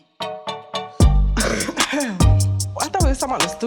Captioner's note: coughs